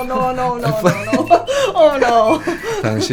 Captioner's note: crying